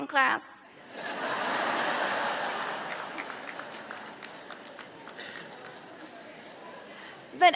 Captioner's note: laughter